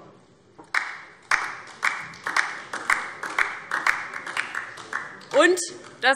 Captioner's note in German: Beifall DIE LINKE